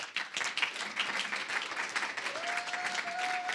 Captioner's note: applause; applause, cheering